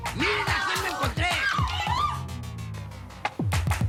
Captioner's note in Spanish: Grito